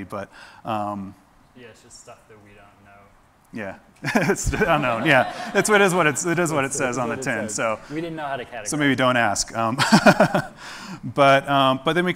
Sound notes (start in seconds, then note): 4.1 audience laughs; 10.6 laughs